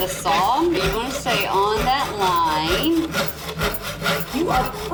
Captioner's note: sawing